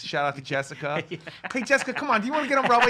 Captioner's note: laughs